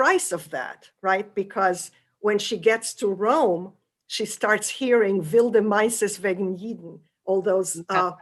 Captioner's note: non-english